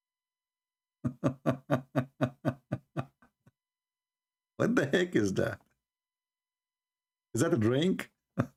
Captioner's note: Ketawa